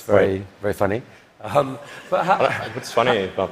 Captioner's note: laughter